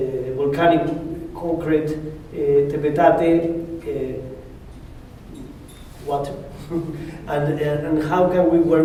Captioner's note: spanish